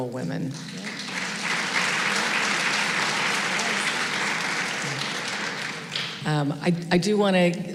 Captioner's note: applause